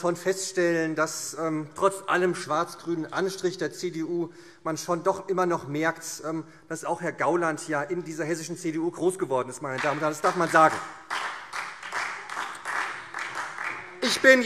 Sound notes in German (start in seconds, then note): 12.4 Beifall SPD